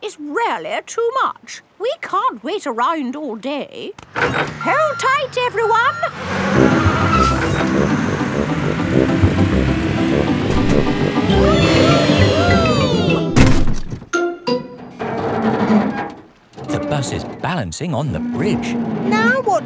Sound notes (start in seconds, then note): 6.0 bus beeping; 11.2 all cheering; 14.9 creaking